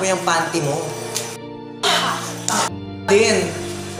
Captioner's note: both swears at one another